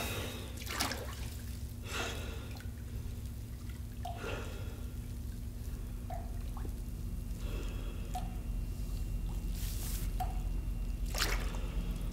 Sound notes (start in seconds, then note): 6.5 water dripping in the background